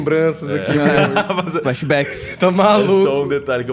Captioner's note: lauhgs